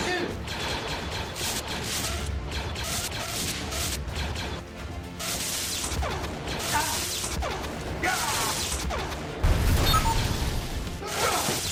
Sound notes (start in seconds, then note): 0.0 blasters firing